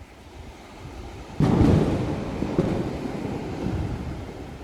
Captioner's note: thunder striking, winds blowing